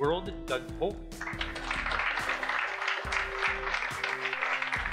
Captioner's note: audience claps